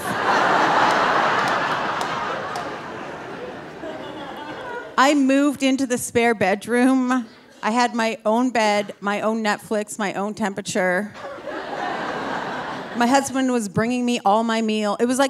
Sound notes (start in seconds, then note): 0.0 audience laughing; 11.2 audience laughing